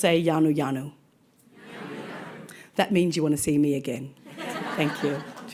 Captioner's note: audience replies